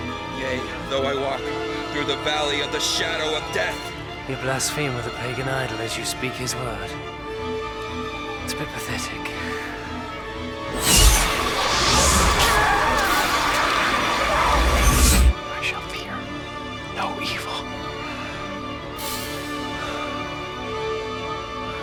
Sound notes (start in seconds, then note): 12.6 screams; 18.9 gasping